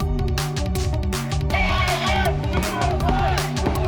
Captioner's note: crowd chanting